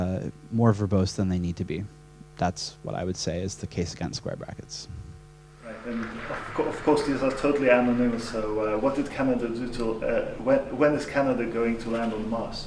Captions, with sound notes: more verbose than they need to be, that is what I would say is the case against square brackets. - [Voiceover] Right, and of course these are anonymous when is Canada going to land on Mars?